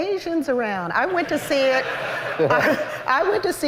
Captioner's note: laughter